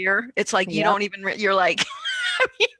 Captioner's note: laughs